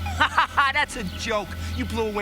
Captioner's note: laughs